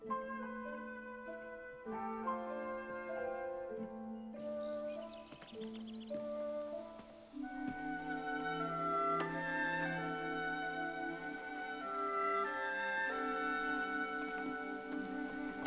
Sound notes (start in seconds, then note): 0.1 soft music continues; 5.3 birds chirping